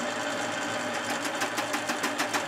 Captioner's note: loud machine rattling